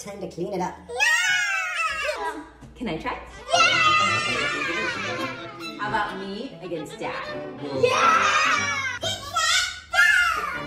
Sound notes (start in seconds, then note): 3.5 cheering